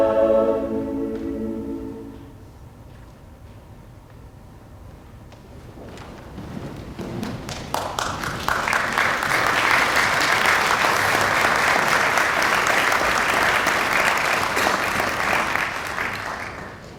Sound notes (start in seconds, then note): 9.1 audience applauding